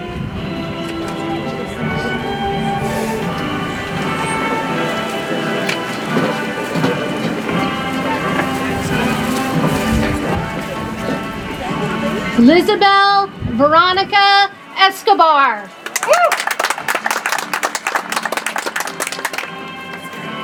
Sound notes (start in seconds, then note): 0.2 soft music; 15.7 audience applauds